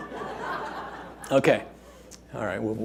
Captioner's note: audience laughing